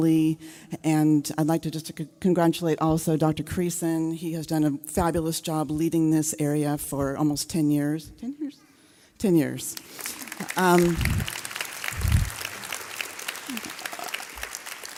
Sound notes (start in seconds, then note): 9.7 audience clapping